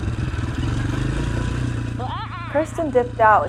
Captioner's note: bike engine roaring